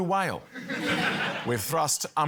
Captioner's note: laughter